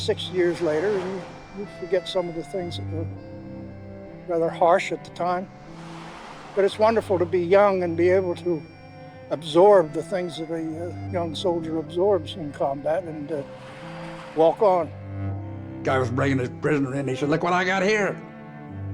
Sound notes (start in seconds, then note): 4.0 waves crashing